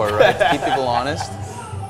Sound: laughs

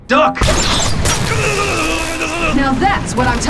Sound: zapping

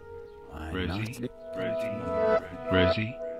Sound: voice distorts

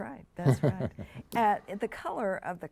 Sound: chuckles

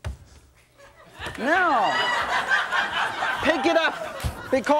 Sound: audience laughs

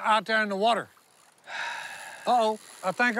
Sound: sigh

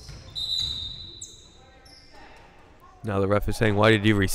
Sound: whistle blowing

